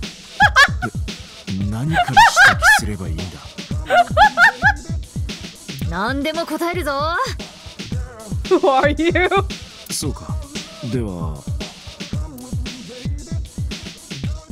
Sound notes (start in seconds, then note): 0.1 laughs hysterically; 8.5 laughs